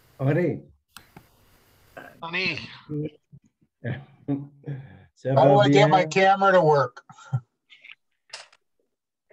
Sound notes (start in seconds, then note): 4.1 laughs